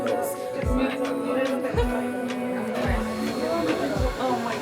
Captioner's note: group chats